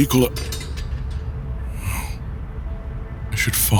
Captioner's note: calling